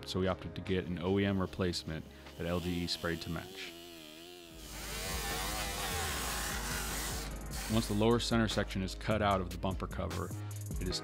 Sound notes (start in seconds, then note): 2.4 motor roaring; 4.5 grinding